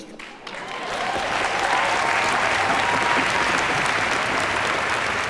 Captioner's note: audience applauds